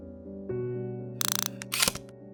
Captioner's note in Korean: 다이얼 소리